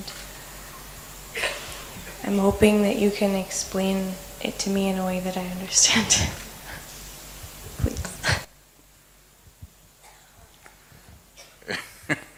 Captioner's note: laughs